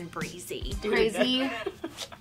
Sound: laughing

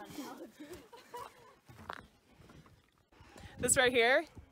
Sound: laughing; distant chatter

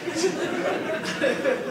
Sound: audience laughing

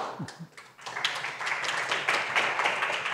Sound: applause

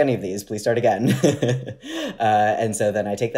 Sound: laughing

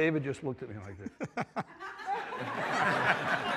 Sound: all laughing

